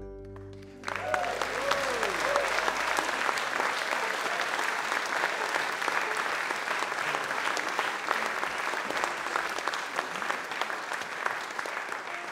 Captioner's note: audience Applause